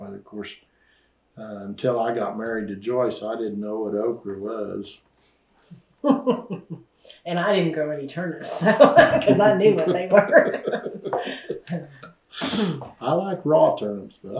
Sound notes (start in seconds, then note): 10.7 laughter